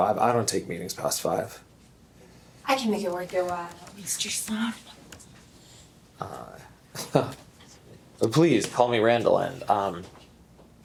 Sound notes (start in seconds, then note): 7.0 chuckles